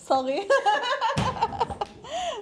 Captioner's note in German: Gelächter